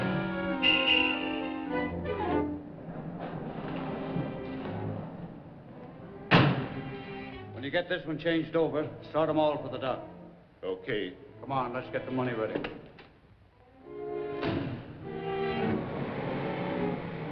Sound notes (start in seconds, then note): 0.1 car horn honking; 6.3 car door shuts; 14.1 car door shuts; 15.1 engine revving; 17.1 suspenseful music